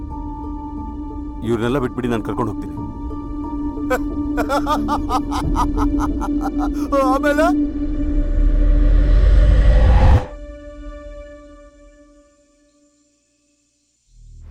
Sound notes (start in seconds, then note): 4.3 laughs